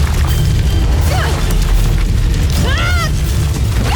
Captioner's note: foreboding music playing; whip-crack of snapping vines; grunts; growls